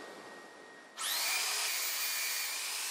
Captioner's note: high-pitched engine whine